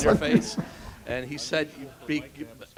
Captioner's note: laugh